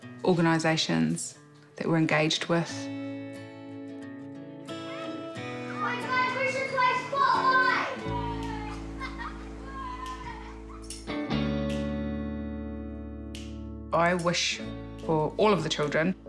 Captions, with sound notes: organisations that we're engaged with. (CHILDREN CHATTER, YELL) (CHILD LAUGHS, ROARS) (HAPPY MUSIC) I wish for all of the children